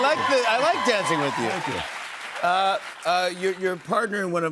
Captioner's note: cheers and applause